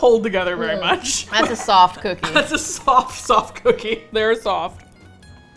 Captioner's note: laughs